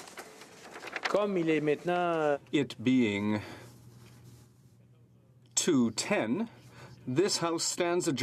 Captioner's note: speaking french